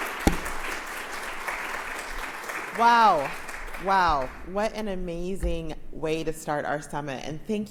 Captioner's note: applause